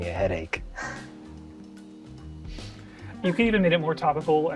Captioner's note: laughs